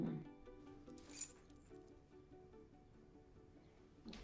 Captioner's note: key jingles